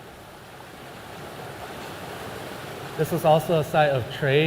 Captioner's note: water rushing